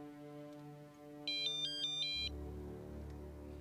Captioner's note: dan's cell phone rings